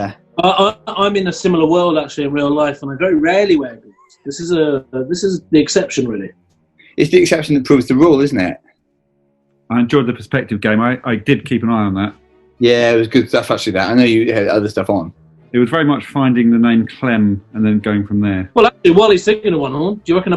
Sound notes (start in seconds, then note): none